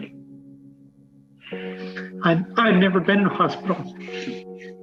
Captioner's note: sobbing